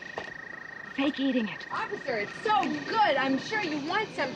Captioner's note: whispers